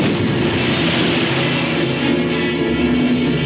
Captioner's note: bomb exploding